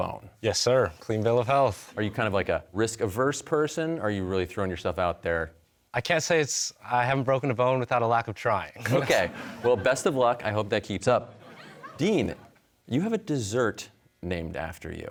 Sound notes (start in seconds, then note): 8.8 laughs; 8.8 chuckling